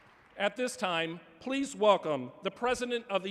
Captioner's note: applause